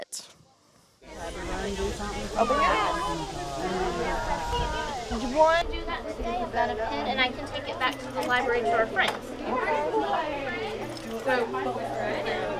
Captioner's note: children and adults happily speaking in a crowd